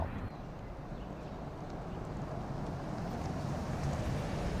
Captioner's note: truck engine roaring